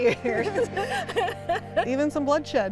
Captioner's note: laugh